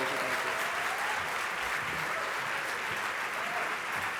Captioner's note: applause